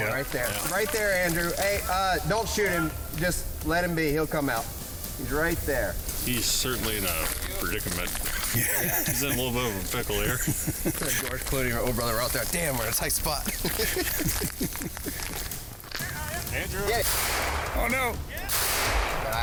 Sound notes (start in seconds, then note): 13.3 hunters chuckle; 18.5 gunshots ring out